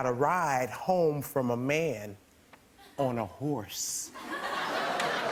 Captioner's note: laughter